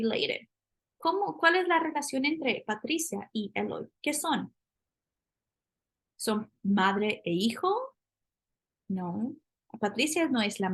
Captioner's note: speaking spanish